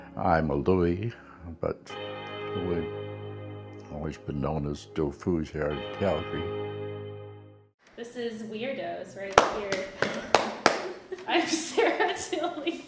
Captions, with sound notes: I'm a Luey, but we've always been known as DoFoo's here in Calgary. - This is WYRDOS, we're in here. (banging) I'm Sarah Tilley.